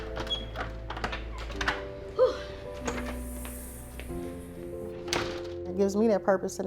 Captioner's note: door creaking; sighing